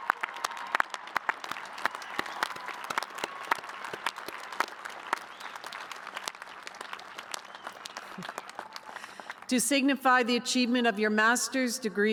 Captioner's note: cheers and applause